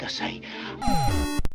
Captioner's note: inhale